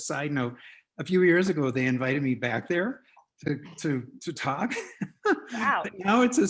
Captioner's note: laughs